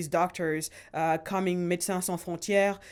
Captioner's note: speaking in foreign language